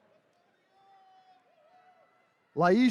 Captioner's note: attendees cheering